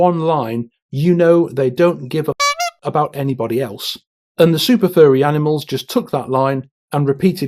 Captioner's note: honk